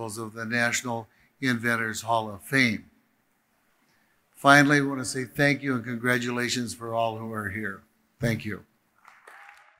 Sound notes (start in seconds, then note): 9.0 audience applauding